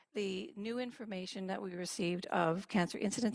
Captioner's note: speaking in French